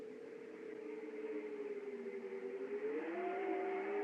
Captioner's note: wind Continues Howling